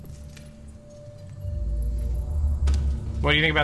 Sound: echoes

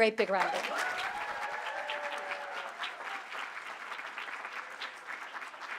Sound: audience applauding

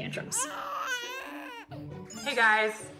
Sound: baby crying

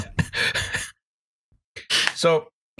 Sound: quiet laughter

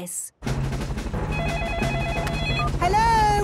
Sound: phone ringing

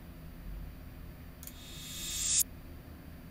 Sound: click

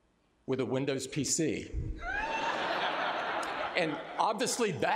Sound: laughter

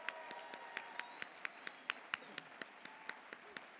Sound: applause

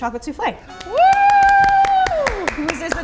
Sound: applauding

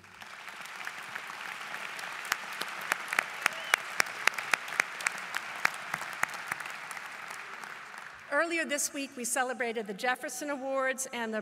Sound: applause

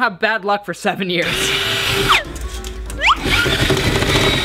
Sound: drill sounds

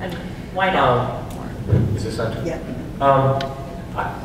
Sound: quietly

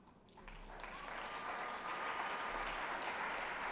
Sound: applause

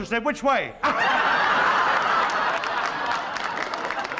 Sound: laughter

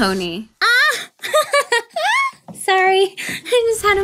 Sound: laughing

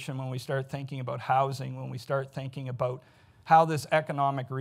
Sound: none

